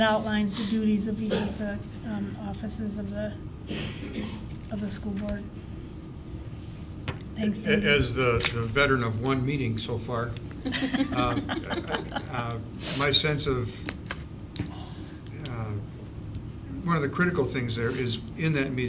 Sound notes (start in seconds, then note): 10.6 laughter